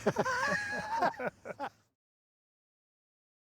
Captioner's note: both laughing